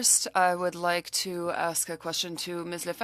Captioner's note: speaking French